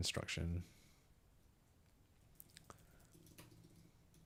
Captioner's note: water pouring